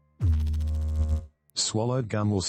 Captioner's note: electrical noise